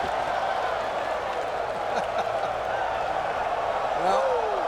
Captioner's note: crowd clamoring